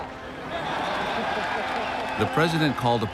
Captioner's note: crowd cheers